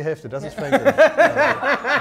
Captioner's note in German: Gelächter